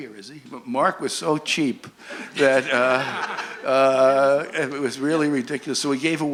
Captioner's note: laughter